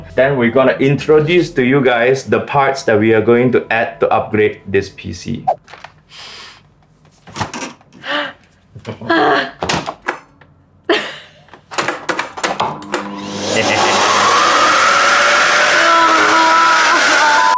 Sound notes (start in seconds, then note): 13.4 evil Laughter